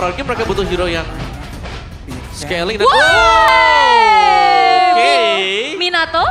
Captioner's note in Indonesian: berteriak